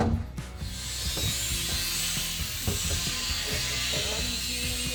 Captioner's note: drill buzzing